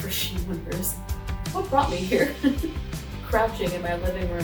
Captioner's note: laugh